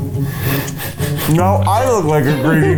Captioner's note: laughs